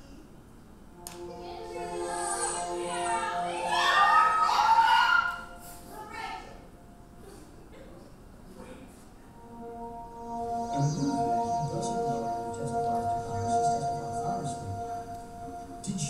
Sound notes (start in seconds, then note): 3.6 audience cheering; 9.2 soft music